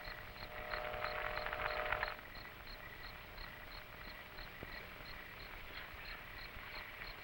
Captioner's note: radio Crackling